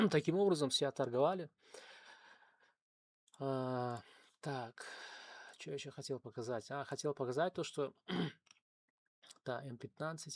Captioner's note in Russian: откашливается